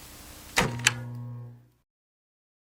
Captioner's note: recorder cut-off